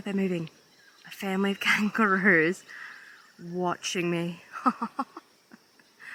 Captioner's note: laughs